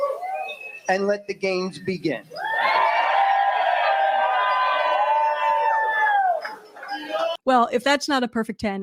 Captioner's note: cheering & applause